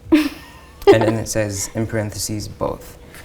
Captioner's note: laughs